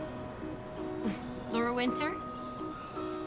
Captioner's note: chuckles